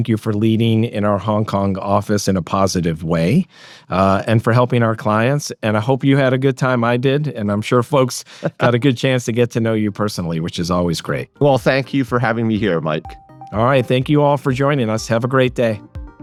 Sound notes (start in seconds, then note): 8.2 laughs